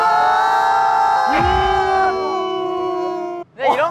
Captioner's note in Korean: 크나큰 환호